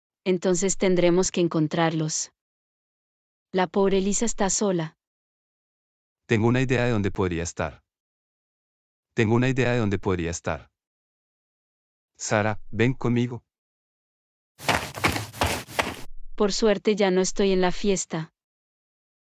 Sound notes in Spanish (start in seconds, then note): 14.6 FX - Footsteps - On Multiple Dirt - Run